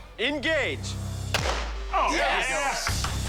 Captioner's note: gunshot